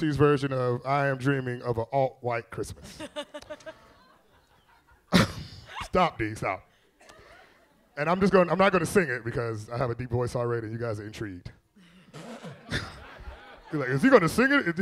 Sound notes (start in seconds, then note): 2.8 all laughing; 11.9 all laughing